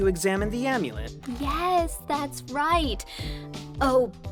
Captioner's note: patronizingly